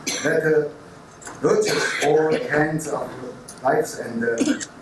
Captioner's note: coughing